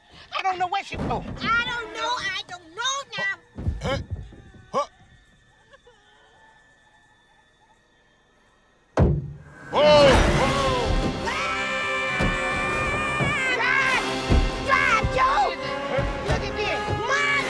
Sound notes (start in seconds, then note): 3.7 crying continues; 11.2 hattie screaming